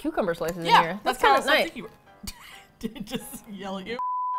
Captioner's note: laughs